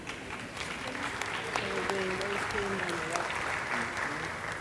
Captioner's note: audience applauding